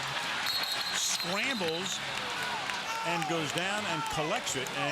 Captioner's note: whistle